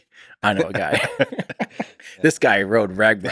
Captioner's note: Lex laughs; Tim laughs